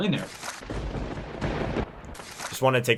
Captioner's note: thunder bangs